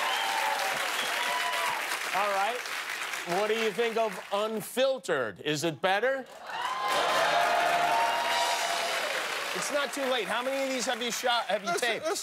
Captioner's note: cheers and applause